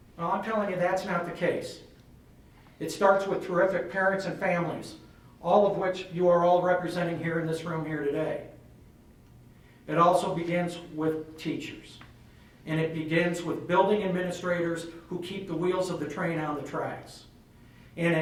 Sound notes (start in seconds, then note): none